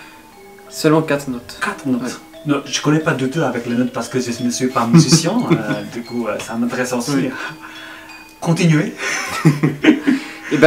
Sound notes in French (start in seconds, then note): 4.9 tertawa kecil; 9.0 kami tertawa bersama